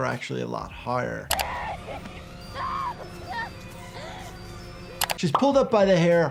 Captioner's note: victim 1 screaming and crying